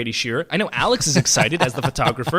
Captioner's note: laughs